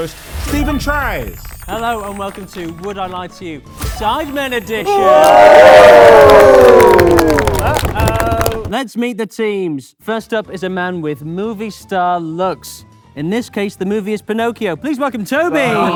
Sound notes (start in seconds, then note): 4.8 group cheers